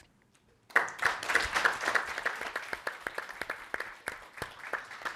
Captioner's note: all applauding